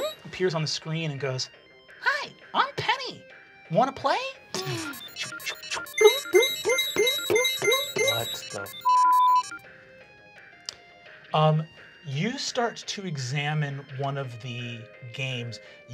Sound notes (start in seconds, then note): 4.5 video game electronic beeps; 10.5 beeping